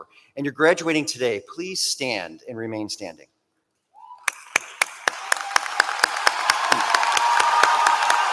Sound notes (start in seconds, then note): 4.2 applause